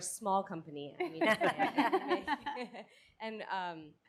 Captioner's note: all laugh